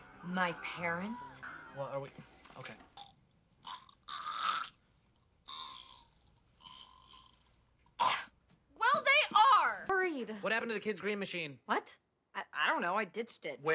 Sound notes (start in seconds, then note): 3.6 gross throwing up disgust noises